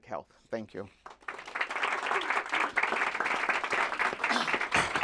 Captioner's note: applause